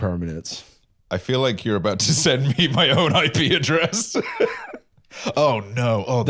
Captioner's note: laughs